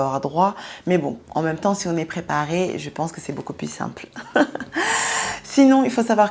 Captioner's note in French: Rires